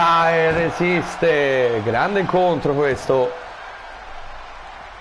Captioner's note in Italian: Applauso